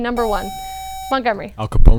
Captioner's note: buzzer